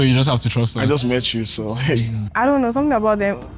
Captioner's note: laughs